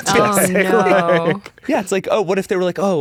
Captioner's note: laugh